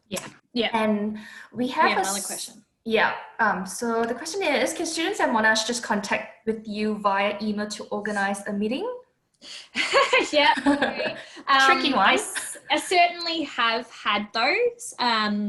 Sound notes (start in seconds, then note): 9.7 laughing